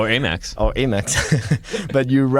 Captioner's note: laughter